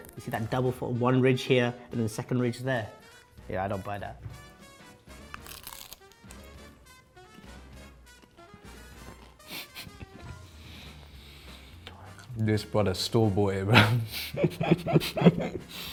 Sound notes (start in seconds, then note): 5.1 food crunching; 6.7 lively music; 9.3 laughing; 13.7 laughs